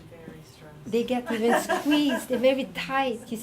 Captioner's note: audience laughing